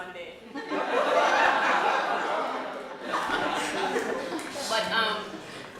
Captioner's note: laughter